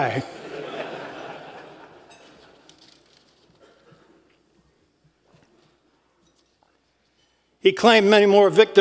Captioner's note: laugh